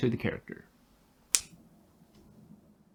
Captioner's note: snap